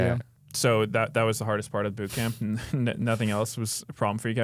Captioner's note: laughs